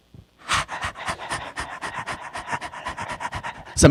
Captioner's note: panting